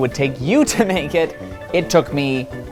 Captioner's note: laughing